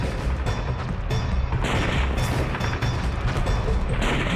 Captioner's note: sounds of battle